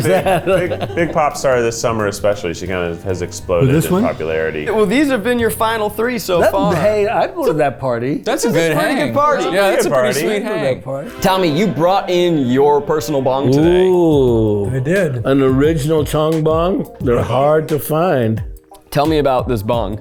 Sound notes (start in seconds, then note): 10.6 logo rings; 12.8 reverent music